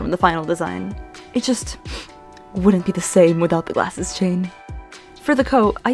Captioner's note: dramatic sniff